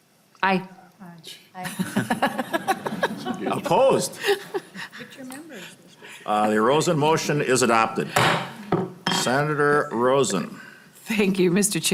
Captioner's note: chorus of ayes